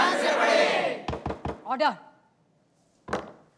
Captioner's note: Gavel bangs